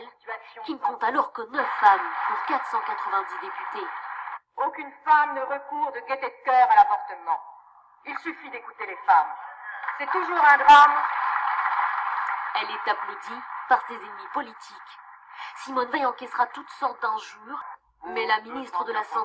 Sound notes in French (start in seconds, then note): 9.6 applaudissements